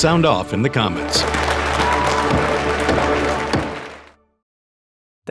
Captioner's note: audience cheering